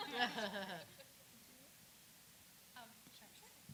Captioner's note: laughter